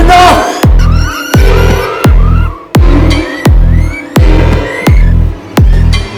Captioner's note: high pitched screeching